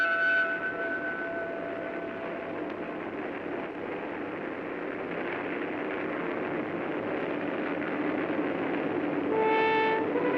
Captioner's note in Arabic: يرن الجرس; هدير الطائرة; موسيقى عاطفية درامية